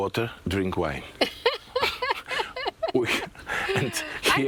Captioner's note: laughing